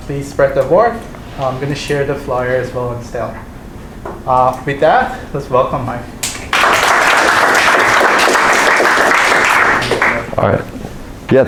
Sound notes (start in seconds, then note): 3.0 mumbles; 6.3 audience applauds